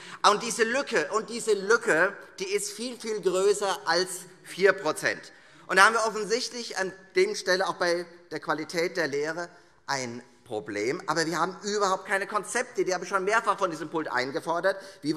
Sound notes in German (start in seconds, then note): none